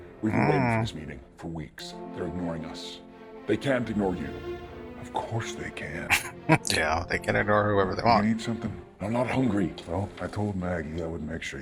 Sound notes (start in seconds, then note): 6.0 chuckling